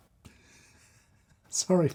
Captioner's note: chuckling